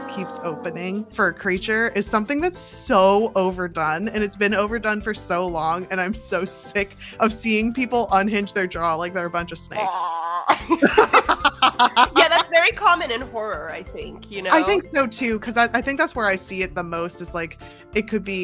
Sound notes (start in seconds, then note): 9.8 laughs